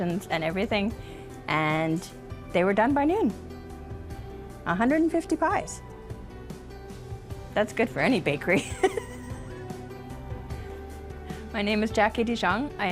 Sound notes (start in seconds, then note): 9.0 laughs